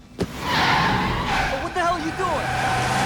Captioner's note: tires screeching